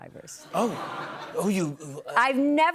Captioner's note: laughter